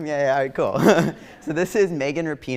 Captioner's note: laughs